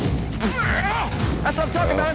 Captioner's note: grunting